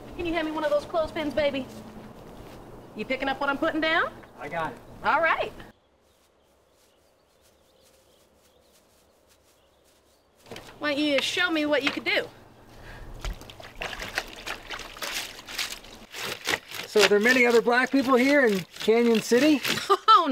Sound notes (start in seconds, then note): 13.0 water sloshing; 13.7 clothes grating